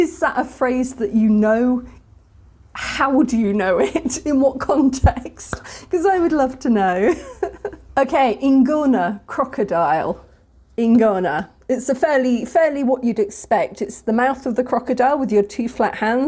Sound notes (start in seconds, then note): 6.9 laughing